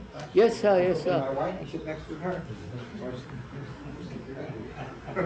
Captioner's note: laughter